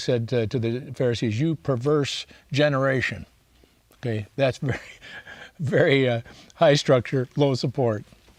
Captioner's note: laughs